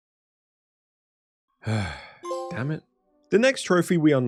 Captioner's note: sigh